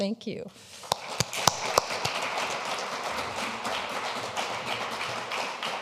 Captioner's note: audience applauding